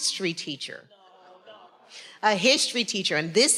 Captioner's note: faculty member speaking faintly